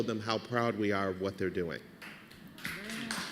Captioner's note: applause